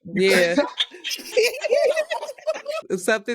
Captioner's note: laughing